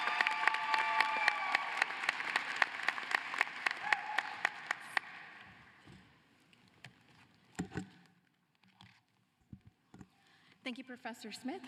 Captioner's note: cheering and applause